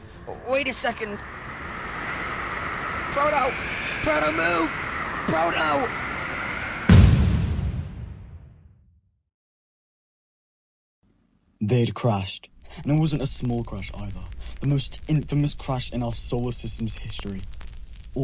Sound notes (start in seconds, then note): 7.0 crash